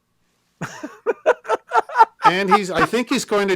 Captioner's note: laughing